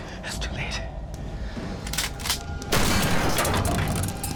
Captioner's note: gunshot